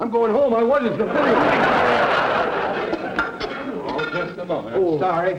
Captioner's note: audience laughter